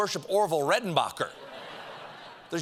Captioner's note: laughter